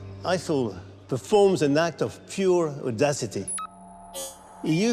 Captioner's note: computer chirps